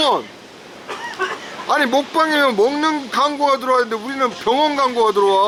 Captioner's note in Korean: 또 사레 들림